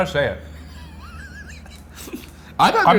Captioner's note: laughing